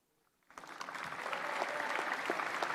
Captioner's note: applause